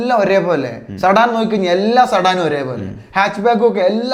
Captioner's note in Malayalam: തൊണ്ട ശരിയാക്കുന്നു